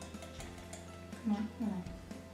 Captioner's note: tapping